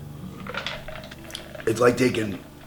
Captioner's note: ice shaking; tongue clicks